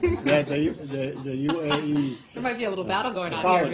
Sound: laughter

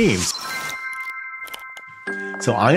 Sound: chimes

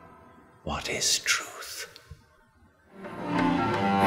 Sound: whisper: What is truth?

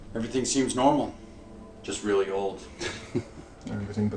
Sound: chuckles

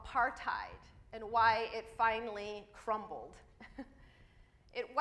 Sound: chuckles

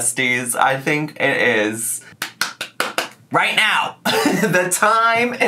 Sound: clapping

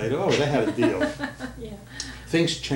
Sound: laughter

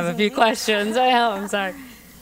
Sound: laugh

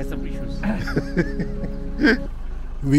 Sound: laughing

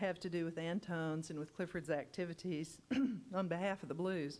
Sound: clears throat

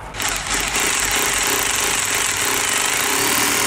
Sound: drill noises

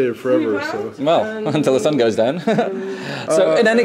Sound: laughs

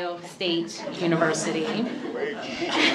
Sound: laughter

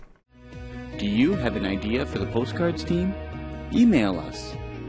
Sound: voiceover

